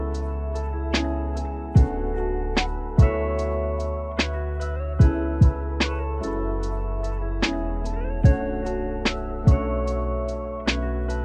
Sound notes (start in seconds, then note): none